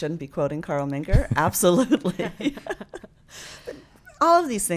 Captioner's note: laughs